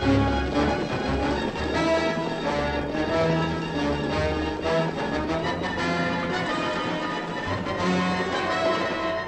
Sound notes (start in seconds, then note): 2.3 horses galloping